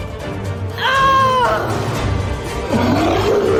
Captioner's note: shouting; monster Roar